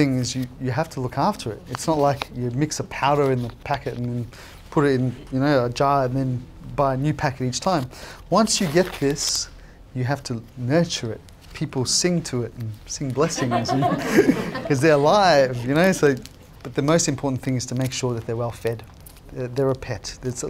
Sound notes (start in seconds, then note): 13.3 laughing